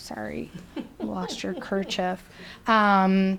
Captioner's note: person laughing